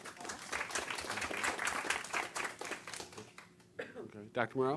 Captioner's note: applause